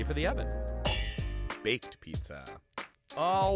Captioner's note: metal clangs